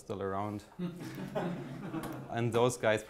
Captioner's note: audience laughs